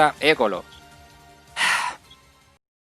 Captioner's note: sigh